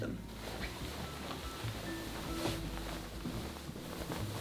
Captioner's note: fabric rustling